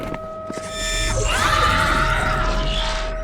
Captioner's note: music and sirens; shrieker noises